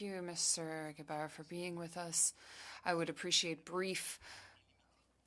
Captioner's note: speaking French